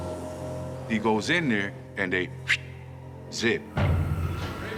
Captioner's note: whistles